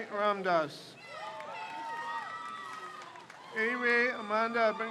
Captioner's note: crowd cheers